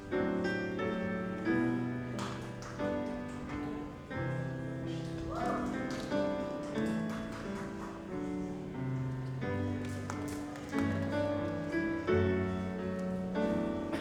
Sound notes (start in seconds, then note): 5.3 audience cheers and applauds